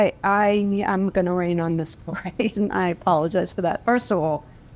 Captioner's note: laugh